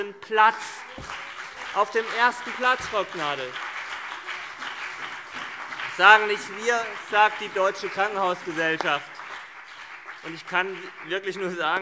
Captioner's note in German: Beifall CDU und BÜNDNIS 90/DIE GRÜNEN